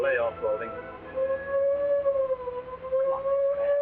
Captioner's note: siren wailing nearby